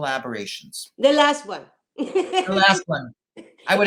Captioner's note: laughs